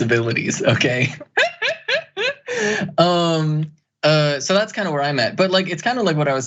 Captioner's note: laugh